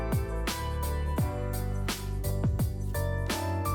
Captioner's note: tape Attaching